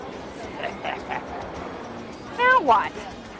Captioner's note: laughs